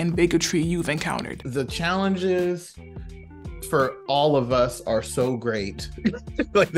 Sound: laughs

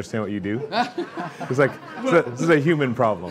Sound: laughter

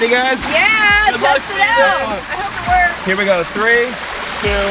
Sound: team Cheering

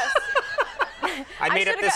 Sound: laughing

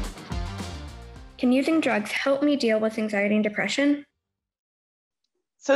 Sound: female voice over

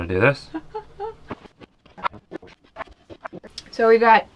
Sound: laughing

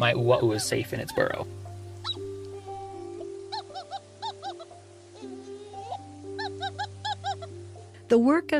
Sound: ‘Ua‘u calls from Mauna Kea

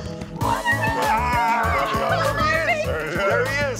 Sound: cheering

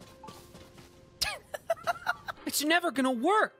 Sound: laughter

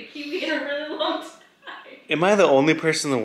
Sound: giggling

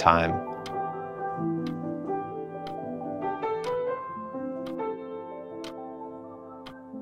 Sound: pensive music continues; clock ticks

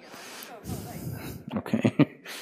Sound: laughs

